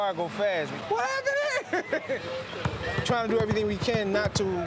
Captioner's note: laughs